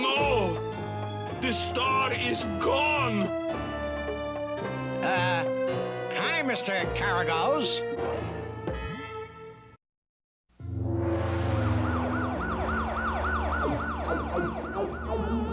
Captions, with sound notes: THE STAR IS GONE! UH, HI, MR. KARAGOZE. [SIRENS BLARE]